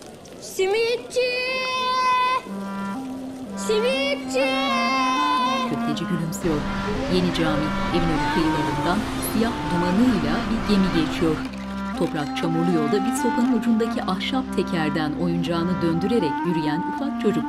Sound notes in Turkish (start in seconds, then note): 7.1 Çocuk ses